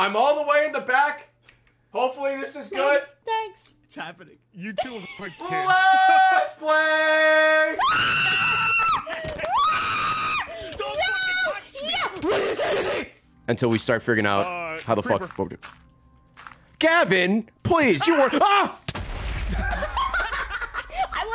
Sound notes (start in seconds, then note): 5.4 scream; 19.7 laughs